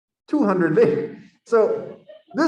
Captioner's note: laughter